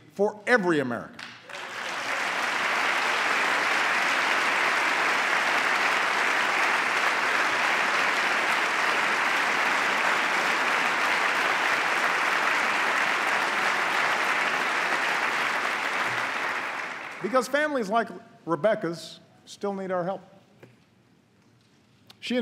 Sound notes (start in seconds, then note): 9.3 applause